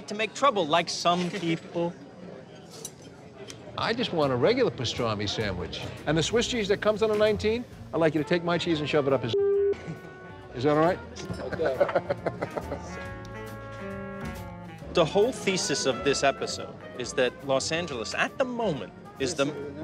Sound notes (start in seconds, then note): 11.2 laughs